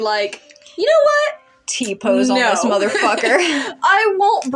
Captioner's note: laugh